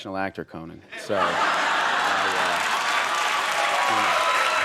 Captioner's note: audience laughs